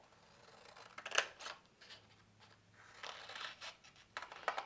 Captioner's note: scissors snipping